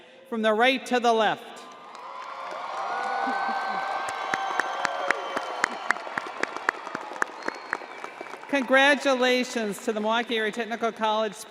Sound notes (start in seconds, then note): 2.2 crowd cheers